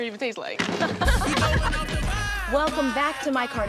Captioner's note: all laughing